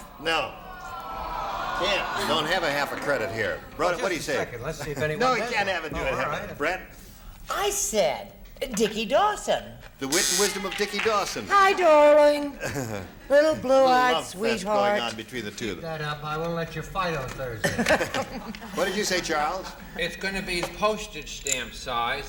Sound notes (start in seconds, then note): 10.1 buzzer